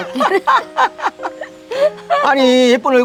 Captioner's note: both laughing